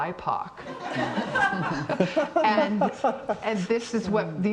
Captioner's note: everyone laughing